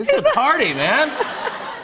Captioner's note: laughter